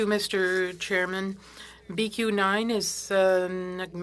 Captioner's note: speaking French